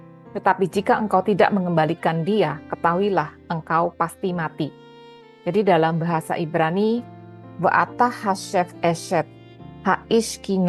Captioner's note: Hebrew